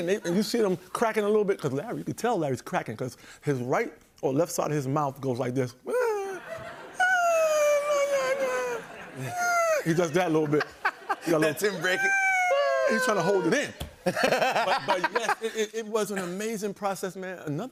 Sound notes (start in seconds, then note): 6.1 laughter; 14.0 laughs